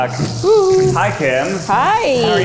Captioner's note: coos